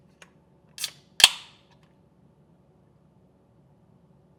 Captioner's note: can tab snaps